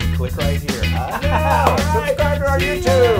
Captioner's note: laugh